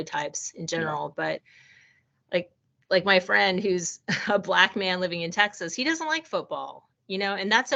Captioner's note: chuckling